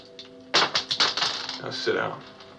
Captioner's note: bullets clatter